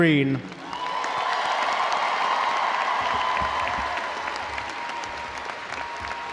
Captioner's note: audience applauding; audience cheering